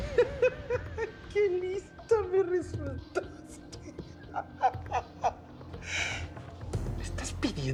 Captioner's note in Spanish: Risas